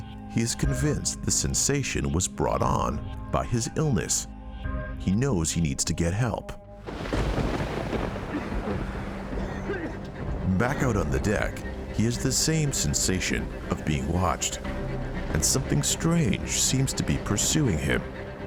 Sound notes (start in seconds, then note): 6.8 thunder booming; 8.0 coughing